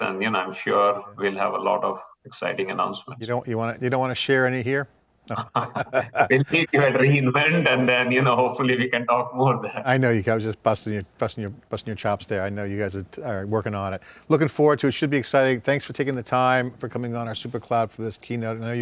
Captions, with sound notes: and I'm sure we'll have a lot of exciting announcements. >> You don't want to share any here? (both laughing) >> I'll meet you at re:Invent and then hopefully, we can talk more there. >> I know, I was just busting your chops there. I know you guys are working on it. Looking forward to it, it should be exciting. Thanks for taking the time for coming on our Supercloud for this keynote.